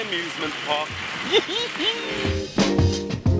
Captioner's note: giggles